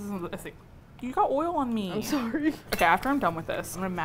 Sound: laughs

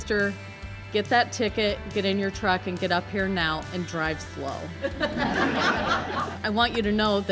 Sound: laughs

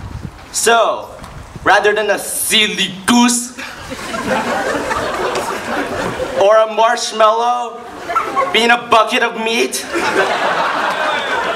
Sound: laughs

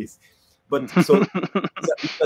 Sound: laughs

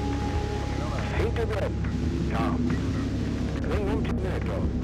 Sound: German spoken audio

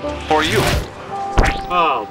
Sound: squelching noise

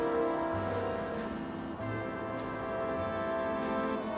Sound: none

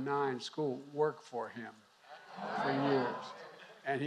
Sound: laughter

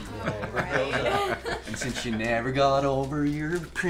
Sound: chuckling

